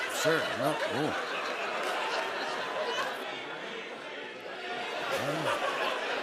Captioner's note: laughter